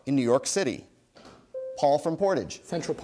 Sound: bell dings

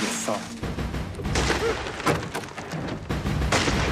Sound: gunshots

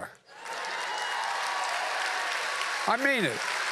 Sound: applause

